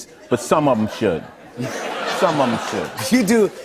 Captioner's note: laughter